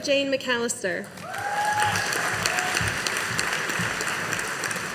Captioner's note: audience applauding